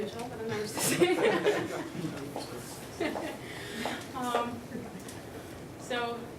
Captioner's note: laughter